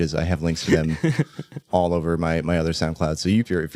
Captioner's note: laughs